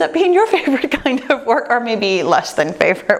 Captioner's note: chuckles